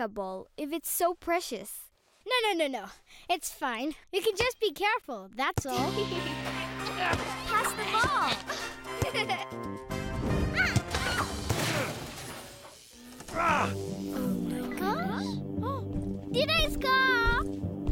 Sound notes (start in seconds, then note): 5.7 joyful music; 6.4 laughing; 11.8 buzzing; 13.1 grunts